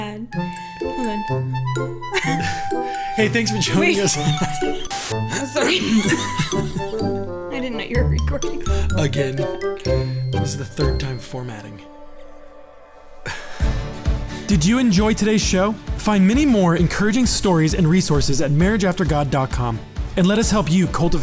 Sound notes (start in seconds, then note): 5.2 laughing; 13.8 upbeat music